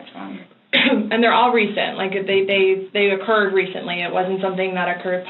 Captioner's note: coughs